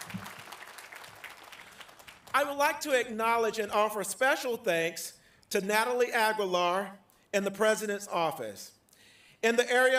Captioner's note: applause